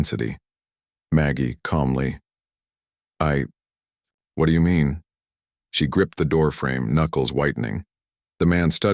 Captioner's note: calmly